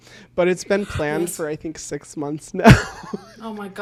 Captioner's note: laughs